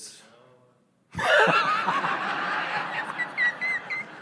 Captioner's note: laughter